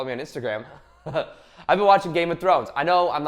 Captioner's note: laughs